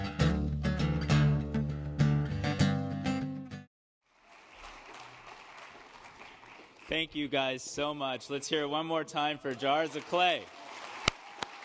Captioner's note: applause